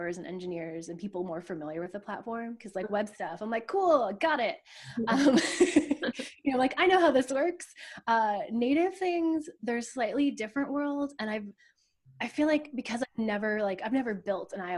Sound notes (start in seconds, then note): 4.9 laughs